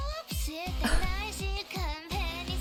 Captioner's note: chuckles